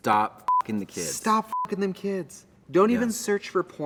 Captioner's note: beep